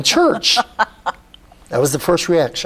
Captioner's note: laughs